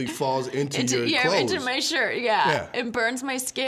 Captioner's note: laughing